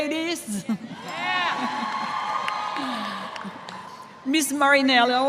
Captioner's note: cheers